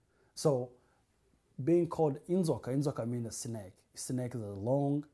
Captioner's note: non-english